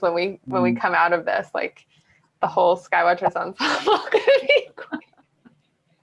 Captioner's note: laughs